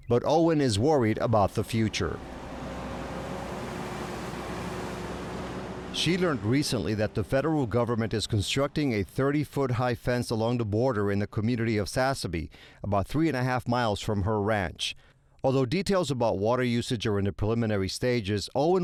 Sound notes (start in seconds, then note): 3.0 truck engine roaring